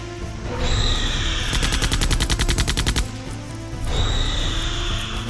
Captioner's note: gunfire; roar